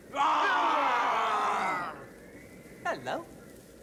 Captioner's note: screaming